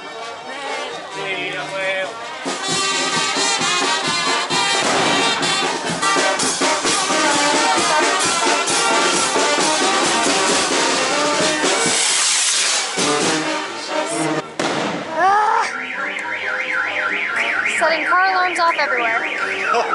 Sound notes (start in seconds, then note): 4.7 the loud bang of a rocket being shot off; 14.5 "Bang" of a rocket; 15.5 car alarms